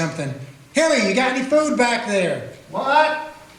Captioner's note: shouting